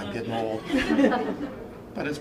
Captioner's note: laughter